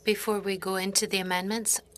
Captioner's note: speaking French